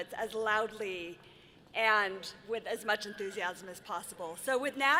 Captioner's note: none